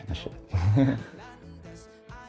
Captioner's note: chuckles